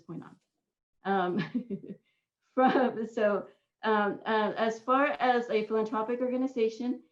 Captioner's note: laughter